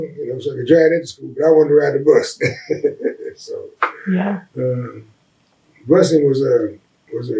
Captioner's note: laughs